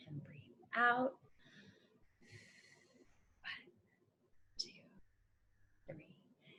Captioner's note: exhales